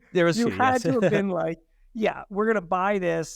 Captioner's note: laughing